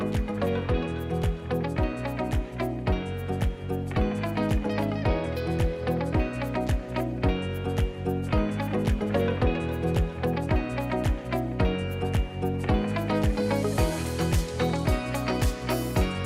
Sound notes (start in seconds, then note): none